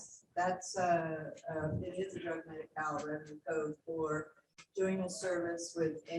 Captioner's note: murmurs